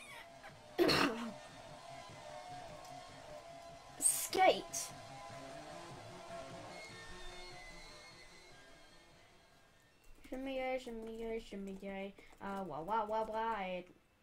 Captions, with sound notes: *clear throat* sk8! shimmy ay shimmy ay shimmy ay a wawawawaaeeh